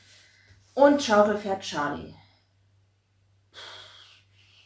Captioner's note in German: seufzt